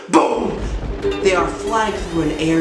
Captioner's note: thunder